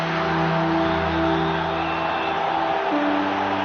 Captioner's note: whistle blows